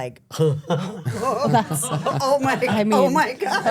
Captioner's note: group laughs